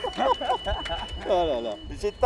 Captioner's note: laughter